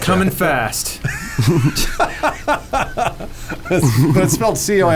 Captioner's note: laughs